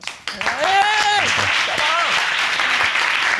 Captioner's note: audience applauding